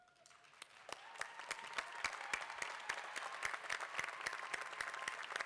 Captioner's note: applause